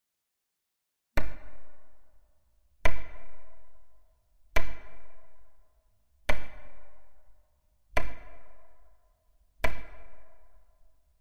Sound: sound of stick tapping

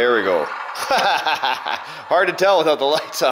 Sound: laughing

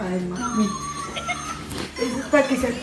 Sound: sniffles

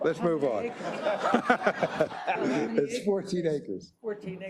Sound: laugh

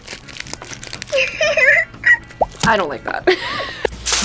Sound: Furby laughs

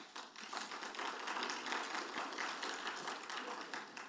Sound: audience applauding

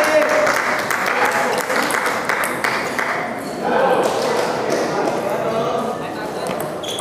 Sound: applause

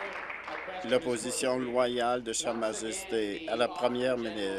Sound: applause

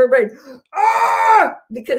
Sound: groans

